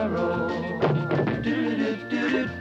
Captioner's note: thumps